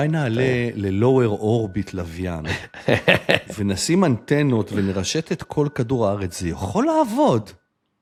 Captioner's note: laughter